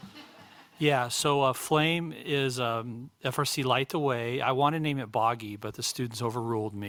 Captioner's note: laughter